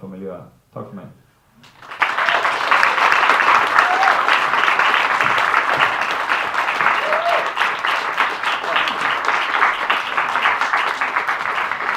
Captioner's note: applause